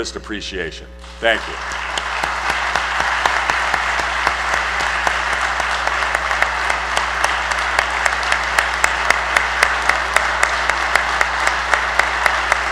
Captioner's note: applause